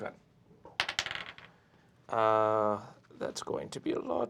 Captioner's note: die rolls